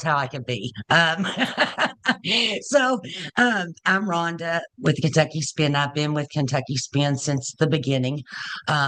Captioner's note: laughs